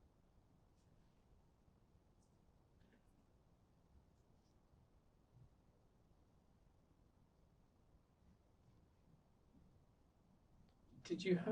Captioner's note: pauses 11 seconds